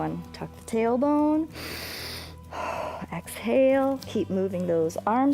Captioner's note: inhales and exhales